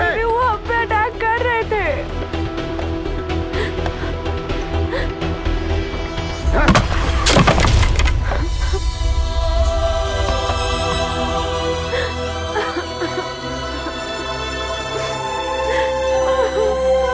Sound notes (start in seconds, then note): 12.5 Crying